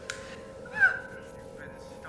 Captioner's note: woman screams